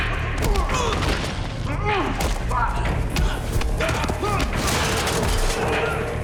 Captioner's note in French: Grognant, criant